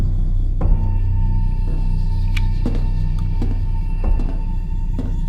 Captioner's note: шаги приближаются